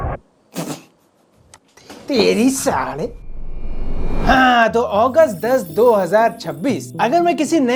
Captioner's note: sniffing sound